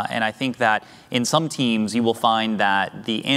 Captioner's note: none